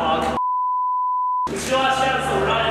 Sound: beeping

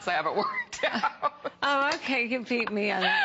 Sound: laughter

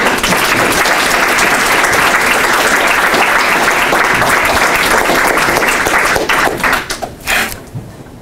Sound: applause

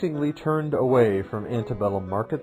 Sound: Arabic; Vietnamese

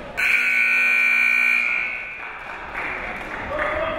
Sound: timer buzzing

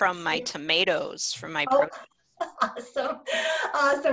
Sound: laughing

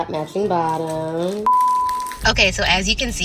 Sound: beep

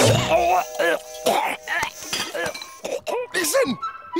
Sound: choking

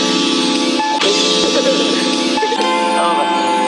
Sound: while laughing

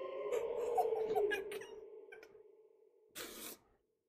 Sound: whimpering

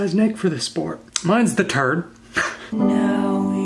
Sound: laughs; soulful keyboard music

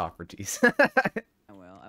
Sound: laughing

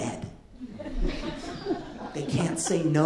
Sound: light laughter

